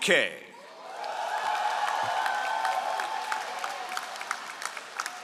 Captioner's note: all applauding